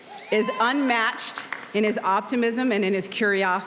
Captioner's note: audience cheering